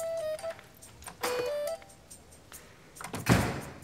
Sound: door opens; door slams shut

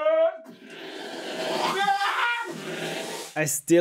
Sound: makes jet noises & screams

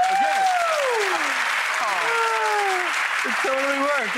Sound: audience applause

